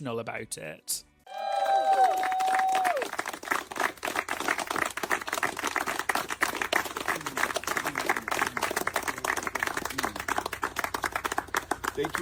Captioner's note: cheering and clapping